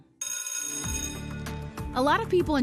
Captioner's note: bell ringing